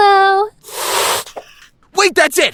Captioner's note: hiss